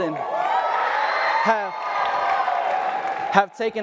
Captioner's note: audience applauds and cheers